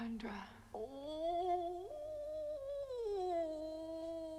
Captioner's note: Chrysula moaning